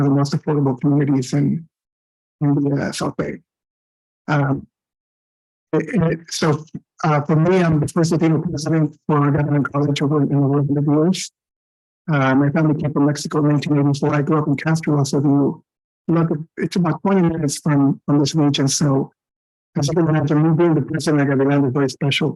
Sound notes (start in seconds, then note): 11.3 audio echoing